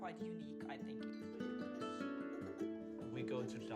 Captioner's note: laughing